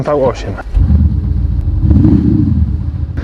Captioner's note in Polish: dźwięk silnika